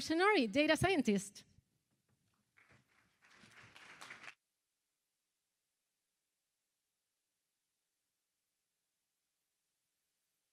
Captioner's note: applause